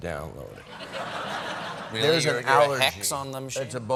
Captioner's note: laughter